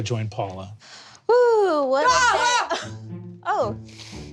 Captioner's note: screams